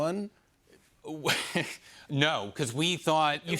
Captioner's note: laughs